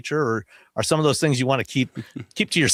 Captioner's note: chuckles